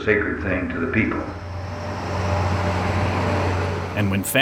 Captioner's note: engine idling